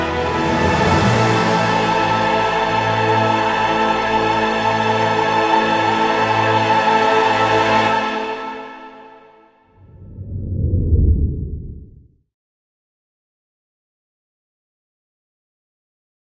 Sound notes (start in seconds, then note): 0.0 intense orchestral music; 9.8 soft whoosh